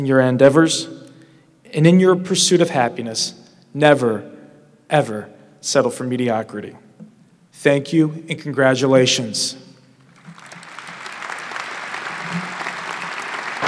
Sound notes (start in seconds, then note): 10.0 applause